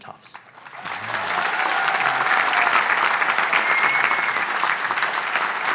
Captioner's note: audience applauds